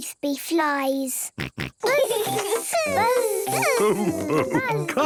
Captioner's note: both buzzing